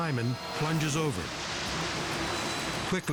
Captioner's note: rapids thundering